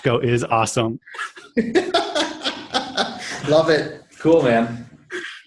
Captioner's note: laughing